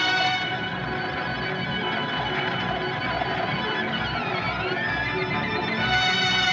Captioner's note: wind Whistling, Blowing